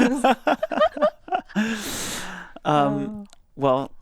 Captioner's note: laugh